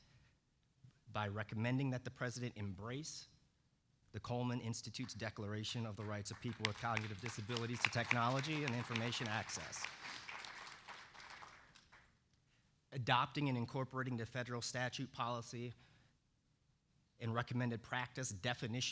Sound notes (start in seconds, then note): 12.5 applause